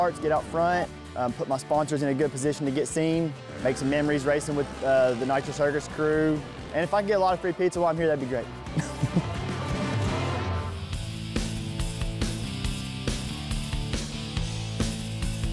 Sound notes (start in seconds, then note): 8.7 laughs